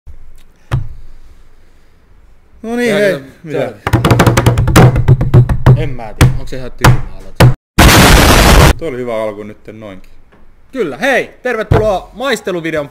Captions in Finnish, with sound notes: Noniin hei *taputuksia* En mä tiedä, onks se ihan tyhmä aloitus *räjähdys ääni* Tuo oli ihan hyvä alku nyt noin Kyllä! Hei tervetuloa maisteluvideon pariin